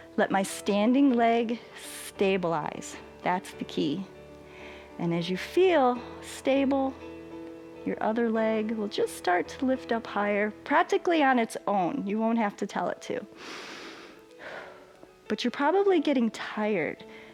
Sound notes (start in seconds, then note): 13.4 inhales and exhales